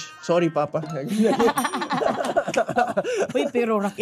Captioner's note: both laughing